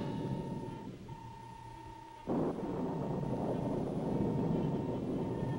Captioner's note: electronic beeping